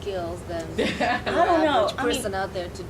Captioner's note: laughing